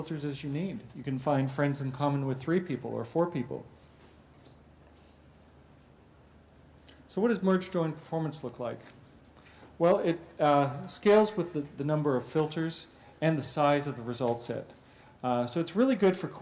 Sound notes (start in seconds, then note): 3.6 pause